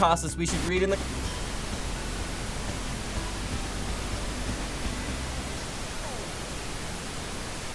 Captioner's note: static